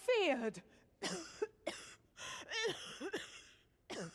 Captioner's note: coughing